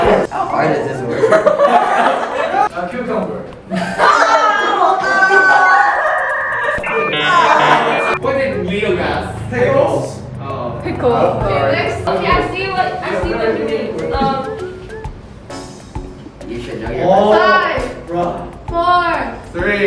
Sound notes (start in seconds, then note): 1.1 everyone laughs; 3.7 chuckles; 4.0 yells in disgust; 6.3 radio tuning sound effect